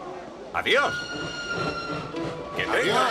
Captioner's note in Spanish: silbato